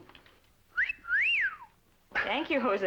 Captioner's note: wolf whistle